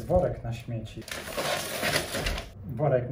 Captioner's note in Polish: odgłosy z pudełka